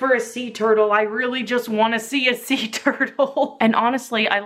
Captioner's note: laughs